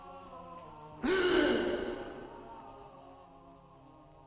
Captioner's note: Dick gasping